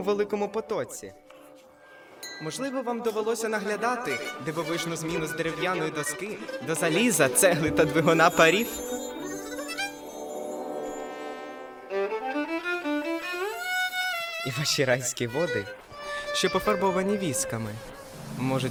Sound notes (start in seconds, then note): none